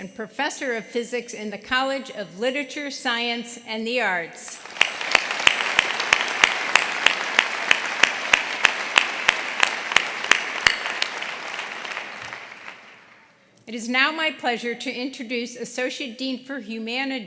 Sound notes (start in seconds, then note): 4.4 applause